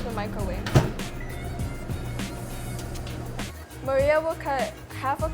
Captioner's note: microwave beeping